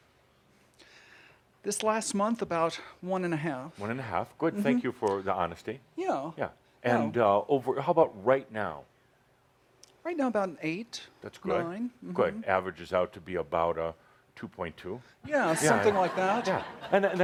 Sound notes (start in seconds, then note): 13.9 laughter